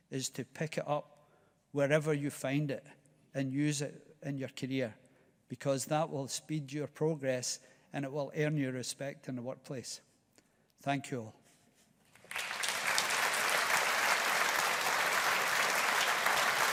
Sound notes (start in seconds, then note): 12.1 audience applauding